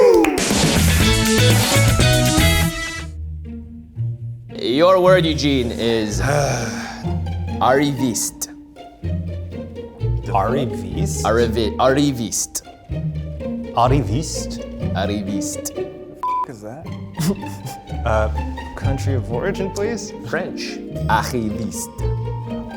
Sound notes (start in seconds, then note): 0.0 group cheers; 0.3 upbeat music; 3.4 light, whimsical music; 6.1 sighs; 16.2 beeps